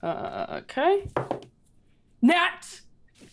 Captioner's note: dice rattling